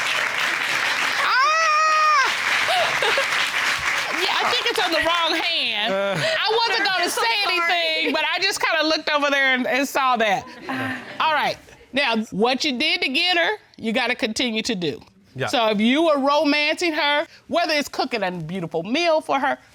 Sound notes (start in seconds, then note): 1.2 screams; 2.5 chuckles; 10.6 chuckles